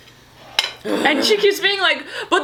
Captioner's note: Colleen groans